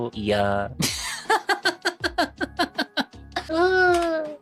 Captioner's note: laughs